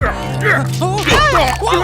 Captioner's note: grunt; whine